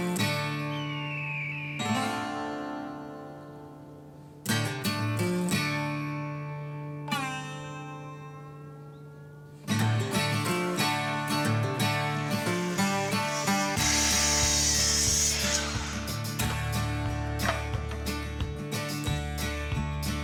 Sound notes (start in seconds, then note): 14.1 sawing